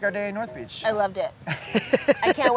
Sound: laughing

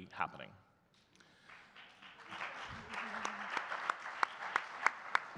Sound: audience clapping

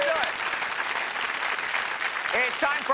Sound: cheers and applause

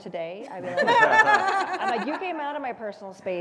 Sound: laugh

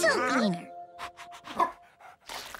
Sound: barking

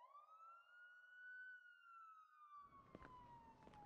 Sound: police sirens

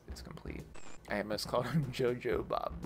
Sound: static

